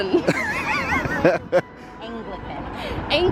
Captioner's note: laughs